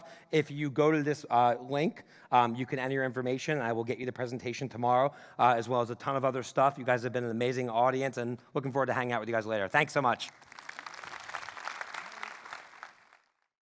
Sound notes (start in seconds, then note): 10.3 audience applauding